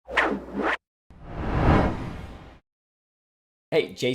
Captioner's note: title whooshes